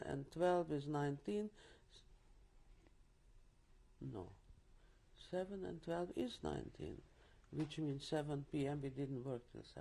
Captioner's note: pauses for 3 seconds